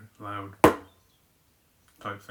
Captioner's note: bonk